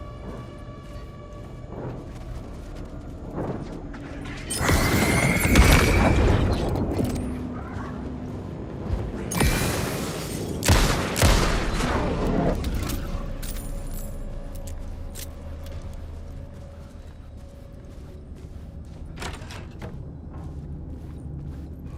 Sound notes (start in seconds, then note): 0.1 gun firing; 10.9 dramatic music